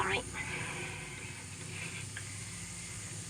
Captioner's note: buzzing